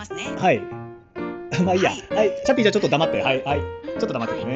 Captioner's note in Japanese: 笑い